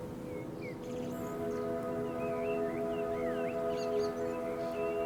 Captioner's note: birds chirping